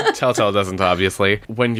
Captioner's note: laughs